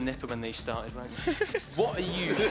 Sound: laughing

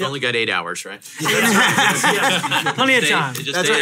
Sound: everyone laughs

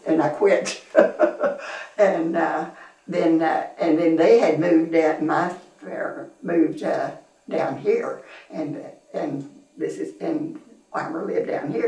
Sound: laughs

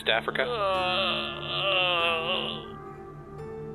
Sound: groans

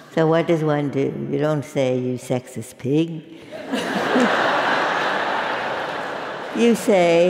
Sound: laugh

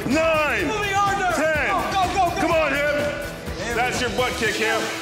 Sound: men yelling

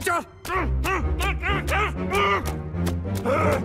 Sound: grunting

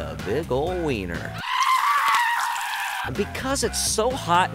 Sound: sizzling noise followed by a loud scream

